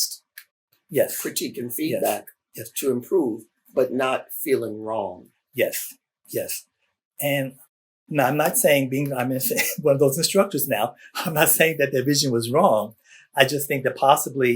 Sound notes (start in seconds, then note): 10.4 laughs